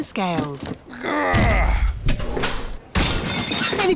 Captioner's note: grunts; crashes